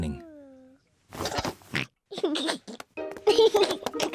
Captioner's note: oinks and giggles